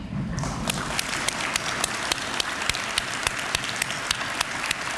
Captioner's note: applause